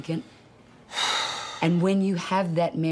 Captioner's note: sighs